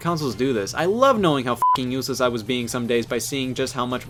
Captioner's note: beep